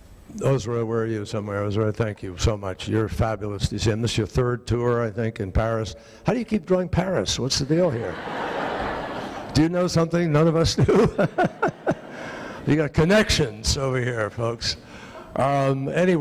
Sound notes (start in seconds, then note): 7.9 audience laughing; 10.8 laughing